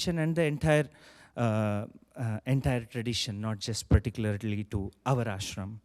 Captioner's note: none